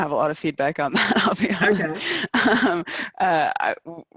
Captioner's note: chuckles